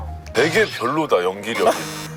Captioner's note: disgusted